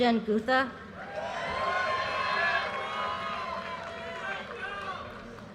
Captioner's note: audience cheers and applause